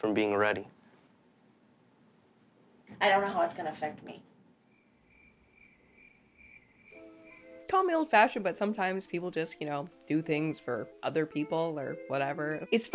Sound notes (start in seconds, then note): 4.6 crickets chirp